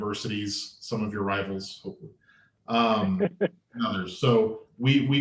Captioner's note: laughter